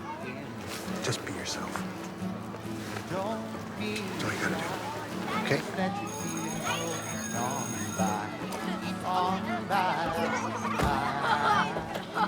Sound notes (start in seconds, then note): 6.0 bell; 9.4 boy laughing